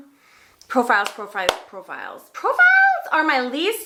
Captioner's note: hands clapping